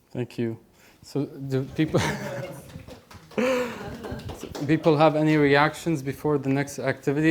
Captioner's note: laughing